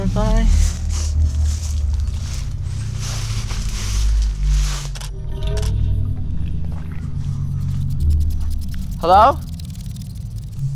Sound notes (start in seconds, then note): 4.9 camera shutter clicks